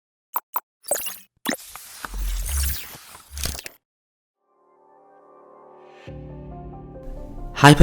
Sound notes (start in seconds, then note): 0.8 digital clicking; 4.5 mysterious music